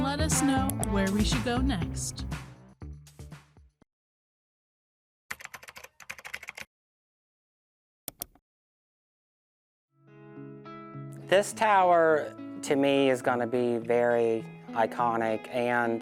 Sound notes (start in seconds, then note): 5.2 mouse clicking; 5.3 keyboard keys clicking; 10.0 somber music